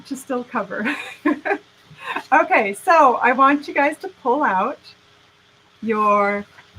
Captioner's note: laughing